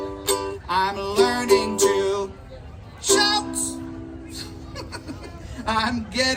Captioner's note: giggles